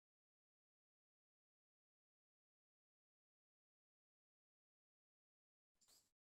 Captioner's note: silence